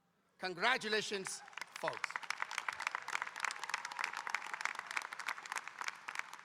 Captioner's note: audience applauding